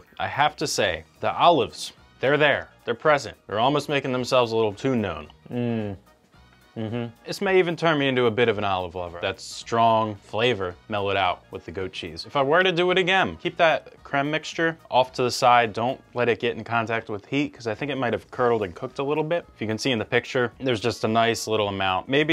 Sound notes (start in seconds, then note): 6.7 humming